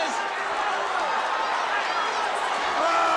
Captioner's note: crowd cheering